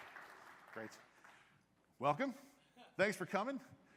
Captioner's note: applause